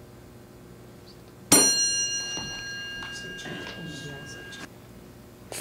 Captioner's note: ding